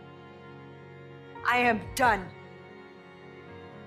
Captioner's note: voiceover